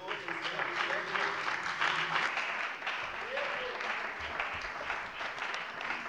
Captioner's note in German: Beifall bei der CDU und dem BÜNDNIS 90/DIE GRÜNEN